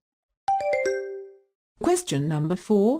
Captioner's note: question ding